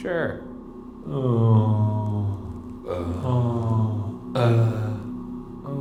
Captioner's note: moaning